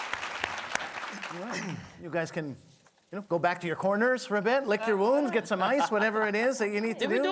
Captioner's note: applause